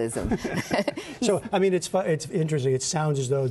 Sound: laughter

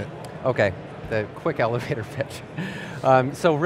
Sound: chuckles

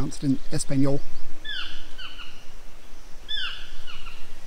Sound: toucan chirps

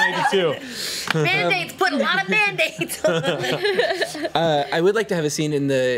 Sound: laughs

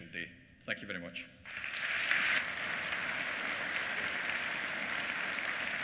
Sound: applause

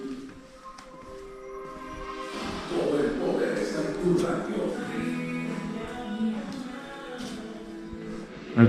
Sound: noises from the TV

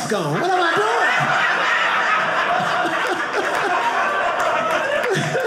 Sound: audience laughing

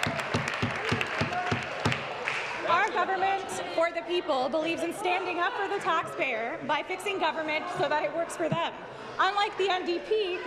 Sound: some Applause

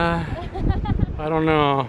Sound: laughs

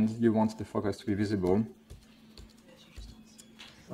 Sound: keyboard press noises

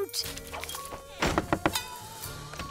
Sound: knocking

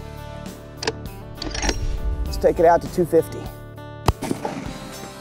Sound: trigger clicking

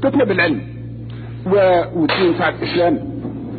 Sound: gunshot sound

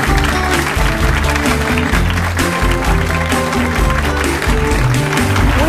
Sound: upbeat music; audience applauds

